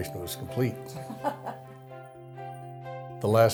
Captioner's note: laughs